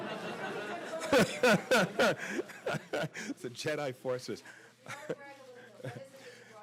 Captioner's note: laughter